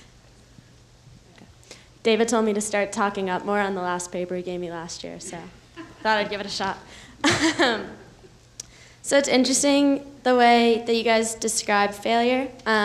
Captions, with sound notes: - David told me to start talking up more on the last paper he gave me last year, so thought I'd give it a shot. (laughs) So it's interesting, the way that you guys described failure.